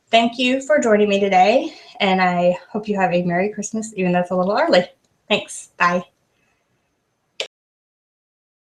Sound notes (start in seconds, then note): 7.5 click